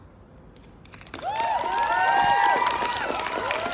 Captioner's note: whooping; applause